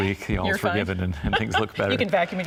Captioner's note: chuckles